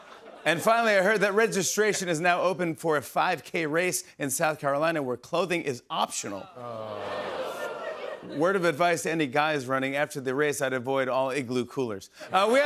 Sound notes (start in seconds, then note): 0.0 laughter; 6.4 audience groans